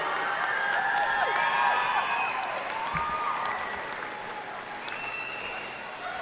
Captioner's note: audience cheering and applauding